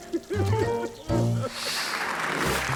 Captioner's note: comical music; man laughing; audience applauding